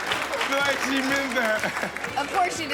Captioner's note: audience laughing and clapping; chuckles